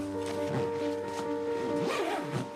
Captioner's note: bag rattling